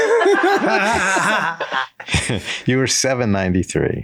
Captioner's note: all laugh